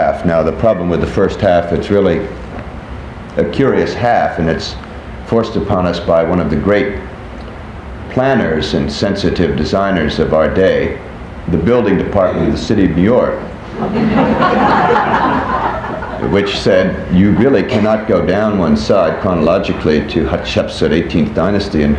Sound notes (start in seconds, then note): 13.6 people laughing